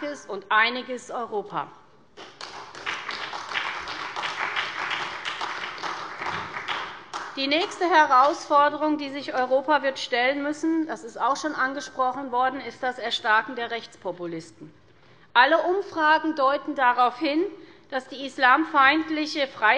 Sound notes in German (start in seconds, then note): 2.2 Beifall bei der SPD und der CDU